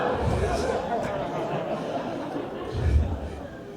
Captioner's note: audience gasps and laughs; laughs